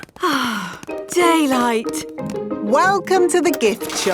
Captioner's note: sighs